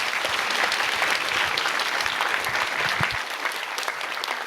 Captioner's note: applause